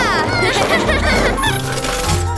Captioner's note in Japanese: 笑い声